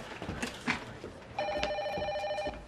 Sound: ringing of telephone

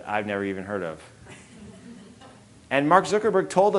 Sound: audience laughing

